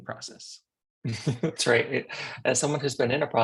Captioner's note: laughs